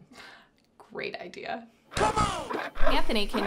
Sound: C'mon sound effect

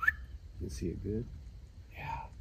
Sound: whistle

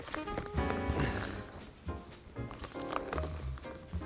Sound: grunts

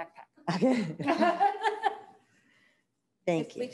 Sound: laughing

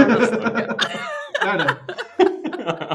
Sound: laughter

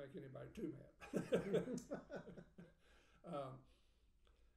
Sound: laughing

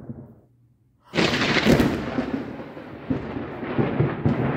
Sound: extremely close thunder

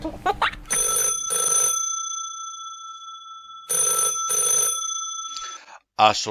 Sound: baby laughing; phone rings

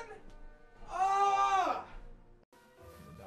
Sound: screams

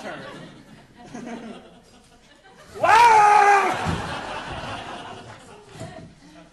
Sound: audience laughing

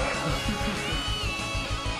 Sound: chuckles

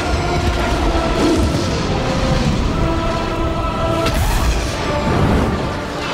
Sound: explosion

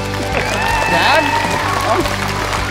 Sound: applause

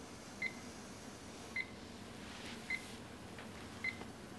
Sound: beeping

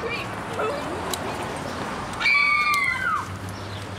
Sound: girls scream

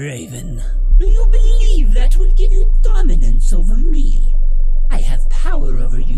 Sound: distorted

